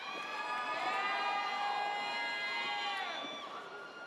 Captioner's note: audience cheers